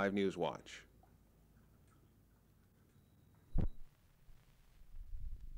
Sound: silence

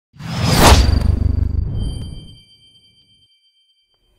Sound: loud swoosh

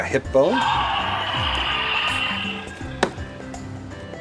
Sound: dinosaur growls

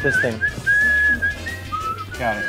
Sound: whistling

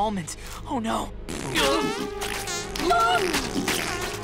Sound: farting

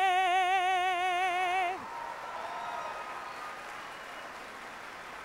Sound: applause

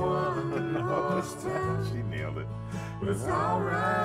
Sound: chuckling

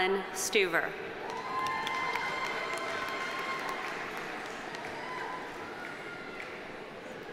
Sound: audience cheering; audience applauding

